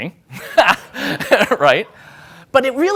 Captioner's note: laughing